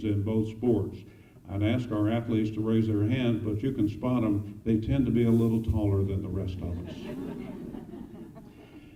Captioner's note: laughter